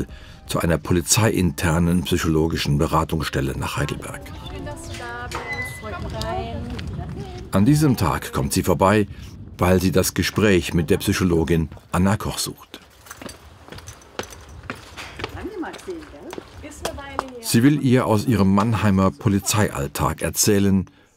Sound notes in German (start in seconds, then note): 15.1 Leise Gesprächsfetzen